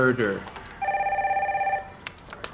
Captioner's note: phone ringing